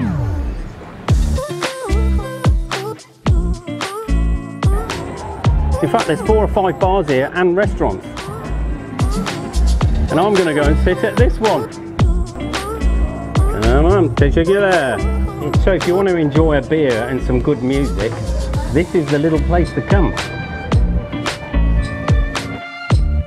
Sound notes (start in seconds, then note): 13.8 narrator speaks foreign language